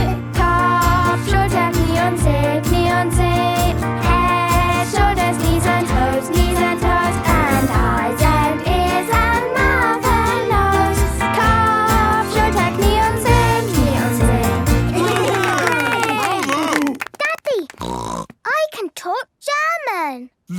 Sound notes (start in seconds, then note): 0.3 singing in German; 11.2 singing in German; 14.8 cheering; 17.7 snorting